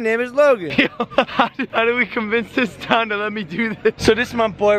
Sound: laughs

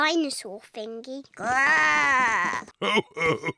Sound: oinks; growls; chuckles

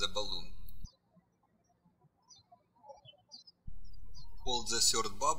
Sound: bird chirping

